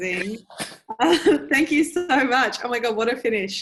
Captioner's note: laughs